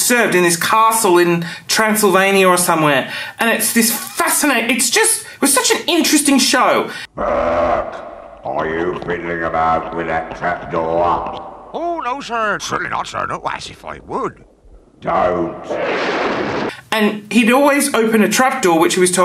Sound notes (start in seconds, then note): 7.2 booming Voice; 14.9 booming Voice; 16.1 thunder crashes